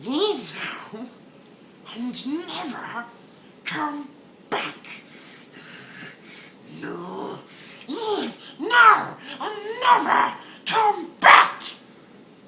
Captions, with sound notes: "Leave now, and never come back!" *heavy breathing* "No!" "LEAVE! NOW! And NEVER come BACK!"